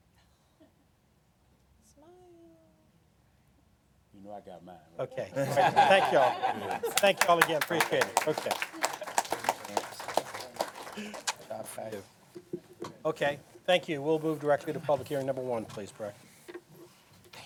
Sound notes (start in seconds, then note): 6.8 applause